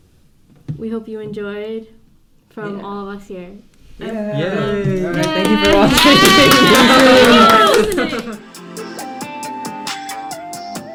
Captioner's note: cheering